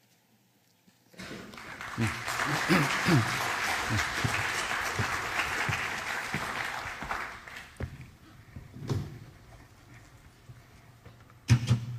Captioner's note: applause